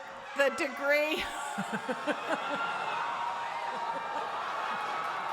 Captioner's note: cheering